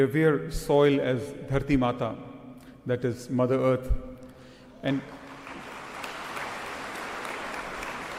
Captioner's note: cheering/Applause